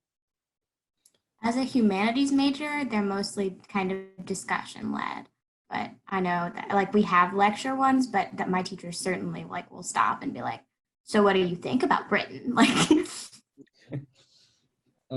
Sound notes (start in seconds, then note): 13.5 laughter